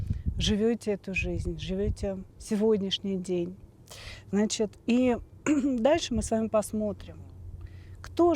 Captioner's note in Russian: откашливается